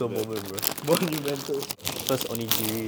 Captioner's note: laughs